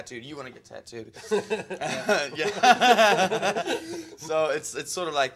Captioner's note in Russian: ржёт как конь